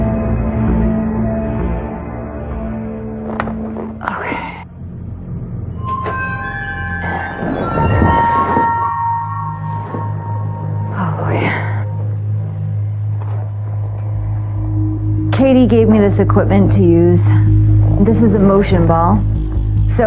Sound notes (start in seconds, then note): 3.8 brereatathlesesslsly; 10.8 whihispererining